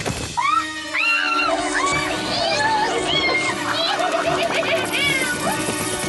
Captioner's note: screams